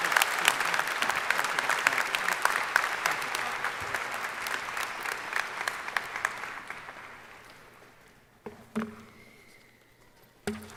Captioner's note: applause